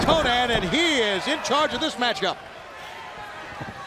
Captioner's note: crowd chatter